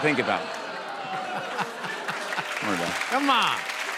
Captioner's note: laughter